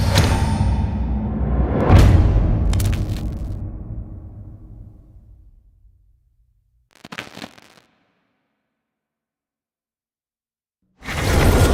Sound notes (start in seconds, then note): 6.8 static crackles